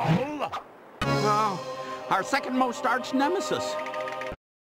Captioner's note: gasps